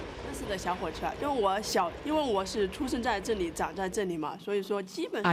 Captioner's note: speaking in foreign language